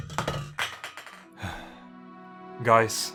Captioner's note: cans being pushed around and falling; sigh